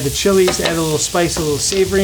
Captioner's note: wooden spoon taps